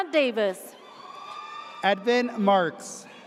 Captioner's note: audience cheers